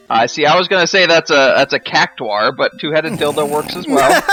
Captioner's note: snorting laughter